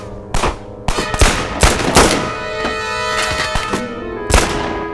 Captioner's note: dramatic music; guns firing